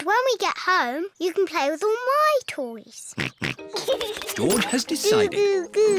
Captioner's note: snorts and giggles